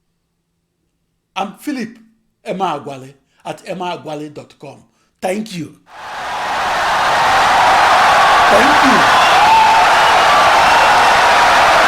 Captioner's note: wild applause and cheering for 17 seconds